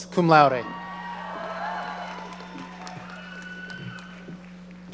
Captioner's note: audience cheering